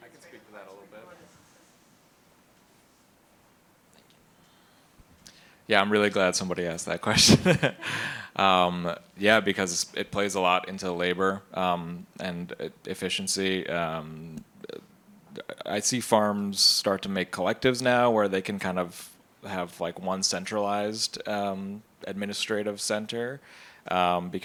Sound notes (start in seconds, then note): 7.1 laughs